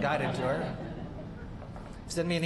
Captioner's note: laughter